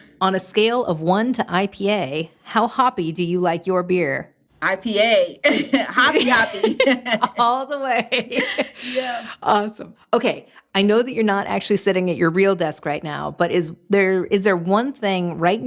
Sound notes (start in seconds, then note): 5.4 laughing